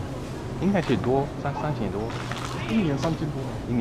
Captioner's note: mandarin